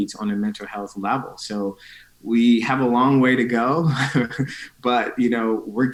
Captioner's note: chuckling